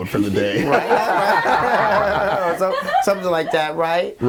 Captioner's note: all laughing